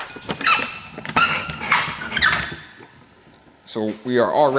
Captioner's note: door squeaking